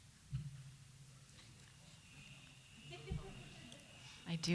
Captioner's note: faint jingling